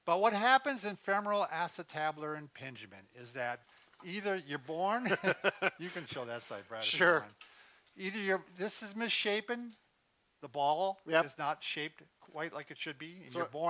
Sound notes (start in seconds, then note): 5.0 both laugh